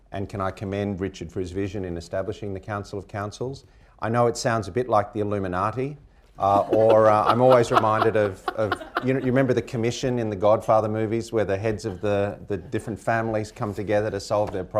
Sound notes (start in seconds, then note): 6.4 laughter